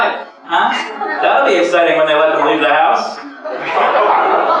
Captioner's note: laugher; clap; groans